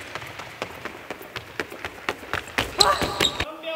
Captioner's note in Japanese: 足音